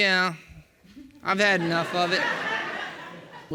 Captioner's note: audience laughing